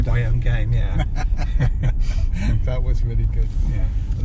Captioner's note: laughs